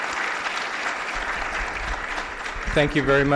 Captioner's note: applause